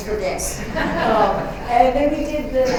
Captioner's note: laughter